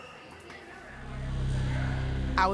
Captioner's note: inmates chattering